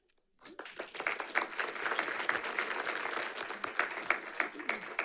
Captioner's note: audience applauding